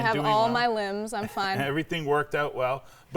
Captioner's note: laughing